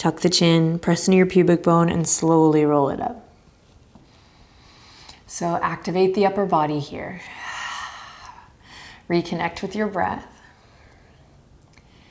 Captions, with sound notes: Tuck the chin, press into your pubic bone and slowly roll it up. So, activate the upper body here. (exhaling strongly) Reconnect with your breath.